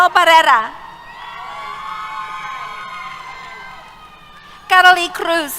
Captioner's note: cheers